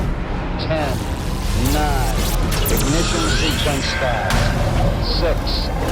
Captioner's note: dramatic music; voiceover